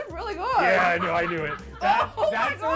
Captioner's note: laughs